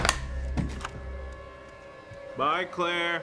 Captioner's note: door clicks